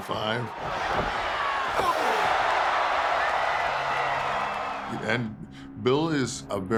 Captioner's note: applause